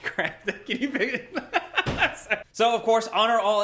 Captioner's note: laughs